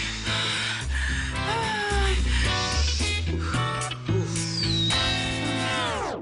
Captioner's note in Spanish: Ella jadea cada vez más fuerte